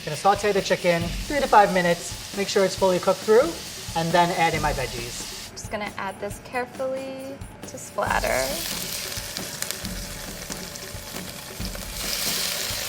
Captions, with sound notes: Gonna saute the chicken, three to five minutes. Make sure it's fully cooked through and then add in my veggies. - I'm just gonna add this carefully to splatter. [wok sizzles]